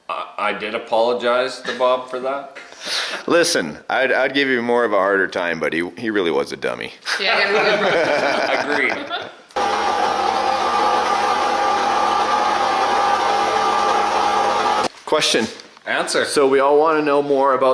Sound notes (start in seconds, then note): 7.2 laughing; 9.5 machines whirring